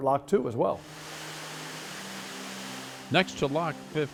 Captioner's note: hissing water